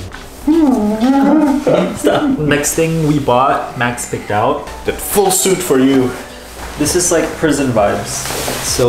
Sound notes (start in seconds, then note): 0.6 laughing